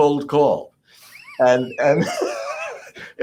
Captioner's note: laugh